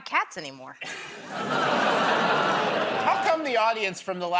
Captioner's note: laughter, groaning